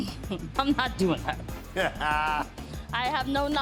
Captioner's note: chuckles; Buddy laughs